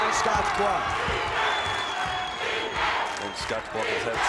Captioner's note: crowd chants